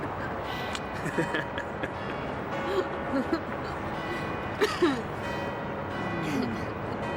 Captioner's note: church bells tolling; laughing